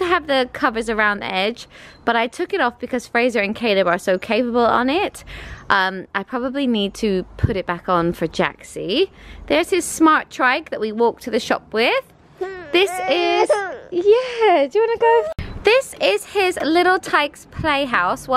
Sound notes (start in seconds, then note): 12.4 cries